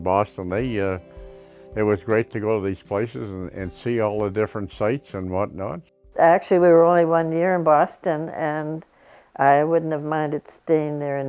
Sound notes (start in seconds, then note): 6.0 pat